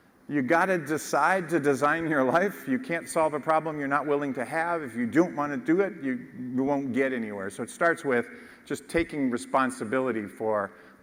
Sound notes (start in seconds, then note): none